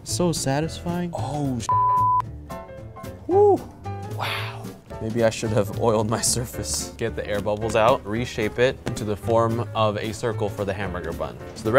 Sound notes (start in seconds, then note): 1.7 beep